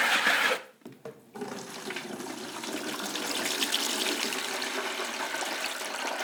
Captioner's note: fast scrapping; low water pouring with echo